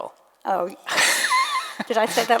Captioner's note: laughs